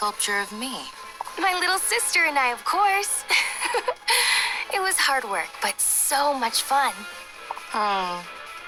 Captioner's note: giggle